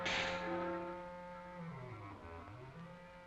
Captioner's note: snake hisses